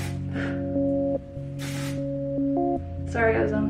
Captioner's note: spray noises